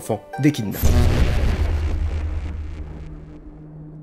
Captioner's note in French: bruit futuriste